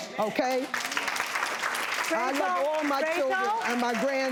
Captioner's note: clapping